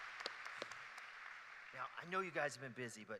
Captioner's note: applause